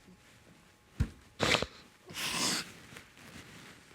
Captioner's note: sniffling